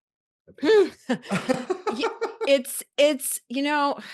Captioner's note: laughter